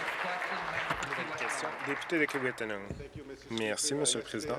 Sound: applause

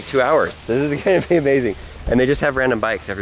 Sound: laughs

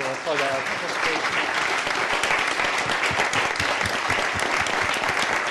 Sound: crowd applauds

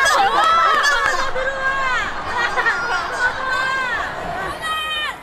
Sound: audience coming for concert

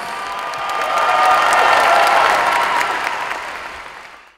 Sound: clapping and cheering

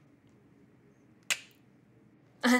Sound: Maya clicks mouth

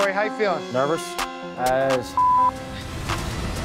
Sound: beep

